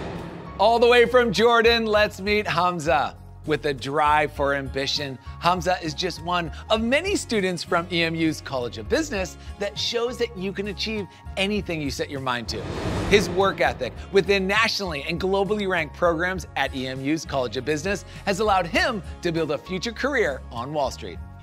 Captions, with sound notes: All the way from Jordan, let's meet Hamzah. With a drive for ambition, Hamzah is just one of many students from EMU's College of Business that shows that you can achieve anything you set your mind to. (transition whoosh) His work ethic, within nationally and globally-ranked programs at EMU's College of Business has allowed him to build a future career on Wall Street.